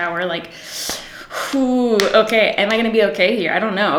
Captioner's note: hissing